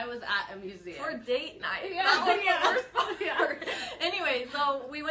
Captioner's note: chuckles